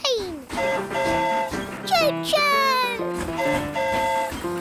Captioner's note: train horn hooting